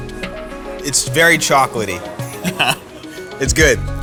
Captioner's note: chuckles